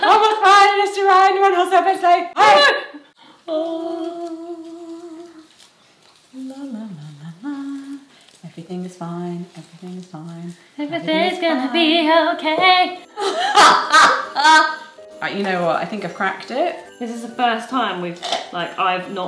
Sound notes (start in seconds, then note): 13.1 laughs